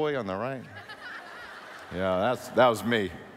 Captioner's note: laughing